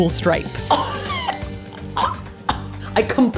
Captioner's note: choking